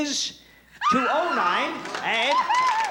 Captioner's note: screams